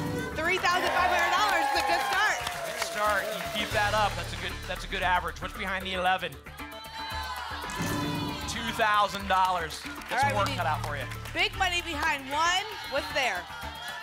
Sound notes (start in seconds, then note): 0.0 cheering; 6.5 cheering